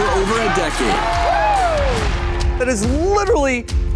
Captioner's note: cheers, applause